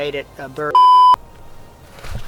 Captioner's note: beep Sound